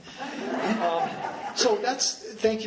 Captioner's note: laughing